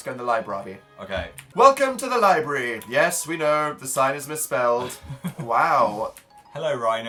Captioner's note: laughs